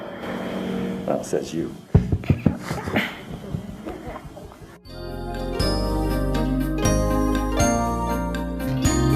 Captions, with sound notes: - Well, says you. (laughter) (relaxing electronic music)